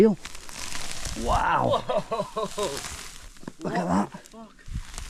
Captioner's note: chuckles